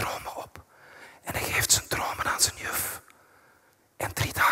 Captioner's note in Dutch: fluistert